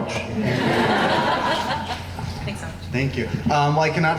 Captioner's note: laughing